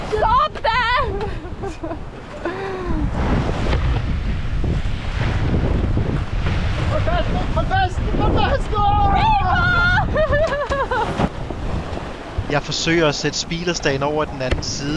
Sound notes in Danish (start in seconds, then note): 0.9 Laughing